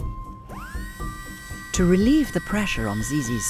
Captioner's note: tool whirring